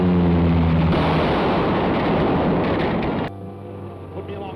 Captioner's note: explosion